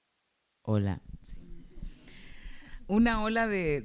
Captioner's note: speaking spanish